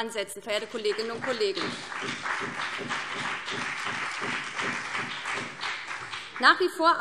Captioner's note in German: Beifall BÜNDNIS 90/DIE GRÜNEN und CDU